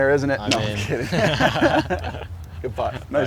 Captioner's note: laughs